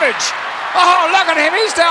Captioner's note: audience cheering